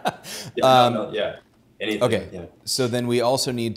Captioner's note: laughs